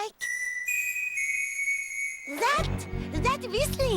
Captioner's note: distant whistling